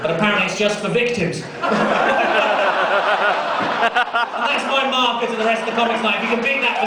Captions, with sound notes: but apparently it's just for victims. And that's my marker for the rest of the comics tonight (crowd clapping)